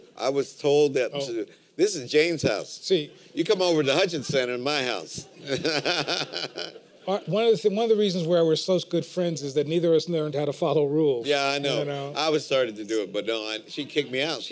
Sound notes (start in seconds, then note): 5.2 laughter